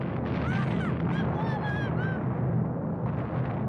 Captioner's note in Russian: кричит